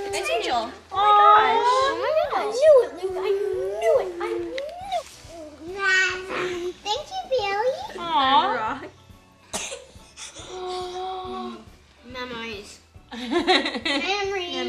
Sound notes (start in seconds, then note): 5.8 baby babbling; 9.5 coughing; 13.3 laughing